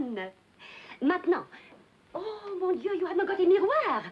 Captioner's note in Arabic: يتحدث بلغة أجنبية